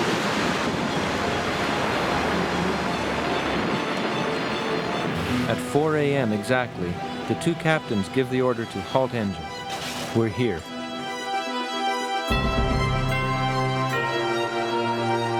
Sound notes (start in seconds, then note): 0.0 ice rumbling; 12.6 dramatic music